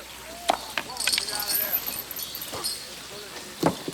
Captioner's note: chain clinks